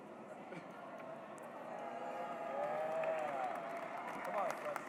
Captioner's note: cheers, applause